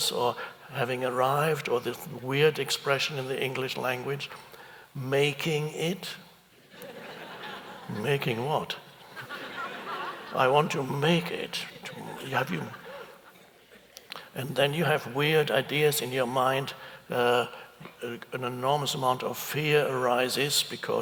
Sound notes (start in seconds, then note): 9.0 audience chuckles